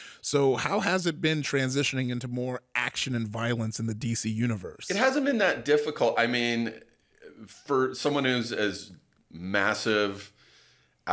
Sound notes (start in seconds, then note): none